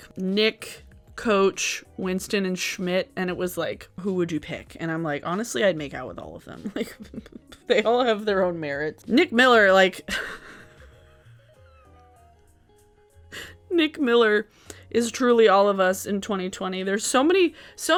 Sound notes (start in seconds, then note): 10.1 laughing